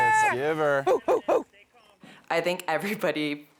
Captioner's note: barking